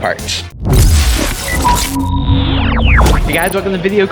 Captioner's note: electric sounds